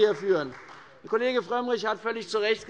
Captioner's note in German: Beifall bei Abgeordneten der CDU